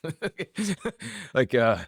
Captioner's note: laughs